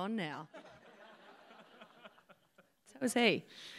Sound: laughter

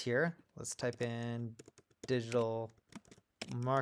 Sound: keyboard clicking

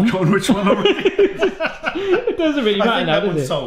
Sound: both laugh

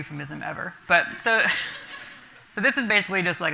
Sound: laughter from the audience

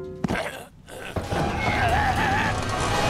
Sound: creaking; screams

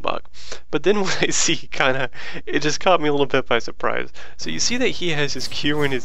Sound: laughter

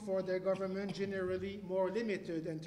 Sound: cough

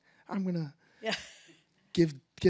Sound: laughs

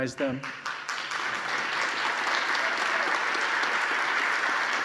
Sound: audience applauding

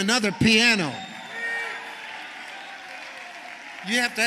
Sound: congregation cheering

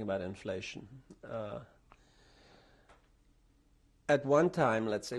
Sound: pauses for 3 seconds

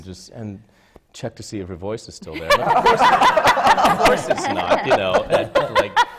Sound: laughter

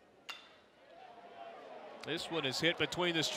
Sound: ball hitting bat

